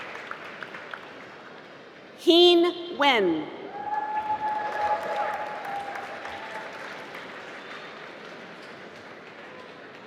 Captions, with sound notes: Hien Nguyen (applause)